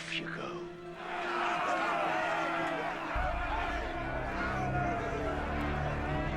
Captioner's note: men clamoring